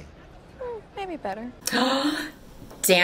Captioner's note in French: Gasp